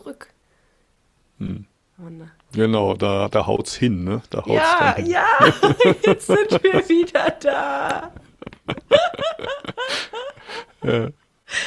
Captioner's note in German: gelächter